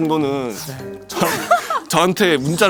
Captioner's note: losing all energy from laughing